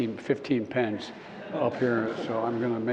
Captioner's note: laughter